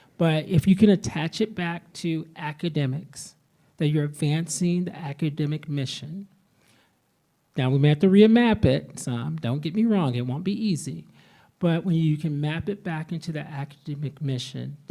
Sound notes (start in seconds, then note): none